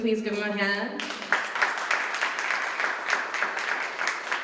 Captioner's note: applause